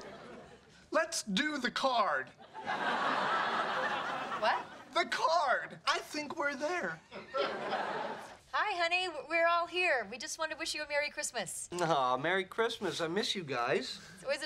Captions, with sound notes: - Let's do the card! (audience laughing) - What? - The card! I think we're there. (audience laughing) - Hi, honey! We're all here. We just want to wish you a merry Christmas. - Aw, merry Christmas. I miss you guys.